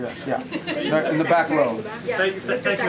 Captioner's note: laughter